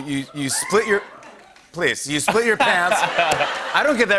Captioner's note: crowd cheering